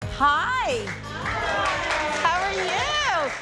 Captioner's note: group applauds